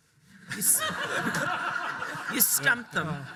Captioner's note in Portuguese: audiência rindo